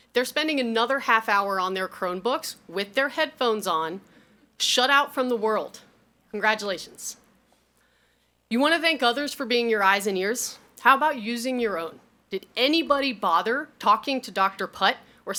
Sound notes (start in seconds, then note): none